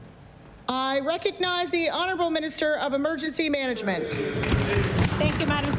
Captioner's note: applause